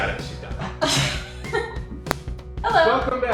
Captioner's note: laughing